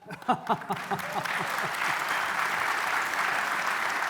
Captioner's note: applause